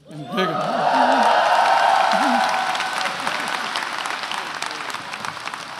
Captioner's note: attendees cheering and applauding